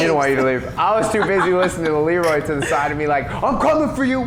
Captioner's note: laughs